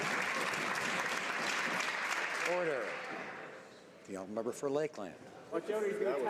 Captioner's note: some Applause